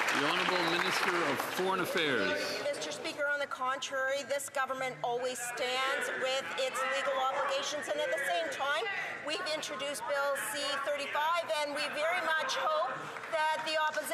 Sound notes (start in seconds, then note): 2.3 some Applause